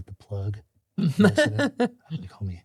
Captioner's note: laughing